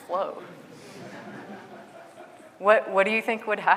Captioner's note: audience laughing